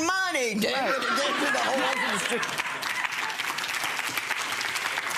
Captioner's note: audience applause